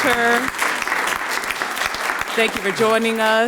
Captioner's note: audience clapping